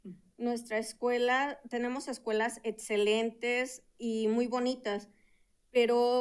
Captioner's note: speaking in Spanish